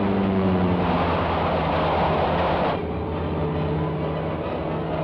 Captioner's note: train rattles